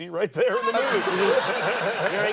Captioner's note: audience laughing